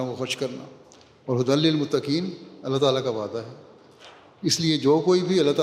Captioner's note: Arabic